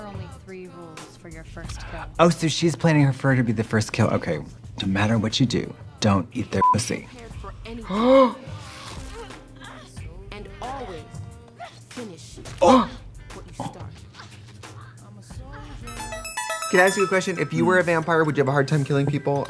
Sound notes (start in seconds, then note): 6.6 beeping; 7.8 Trixie gasps; 12.7 both gasp; 15.8 bright electronic music